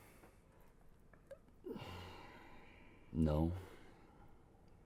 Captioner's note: sighs